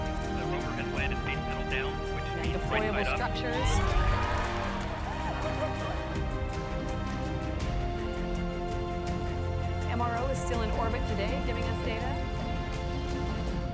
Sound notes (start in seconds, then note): 3.5 audience cheers